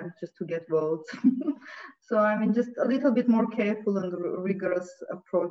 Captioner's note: chuckles